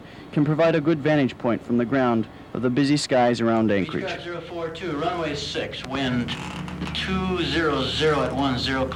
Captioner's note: air traffic controller speaking